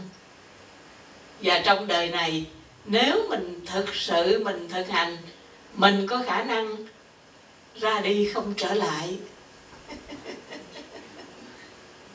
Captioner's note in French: rires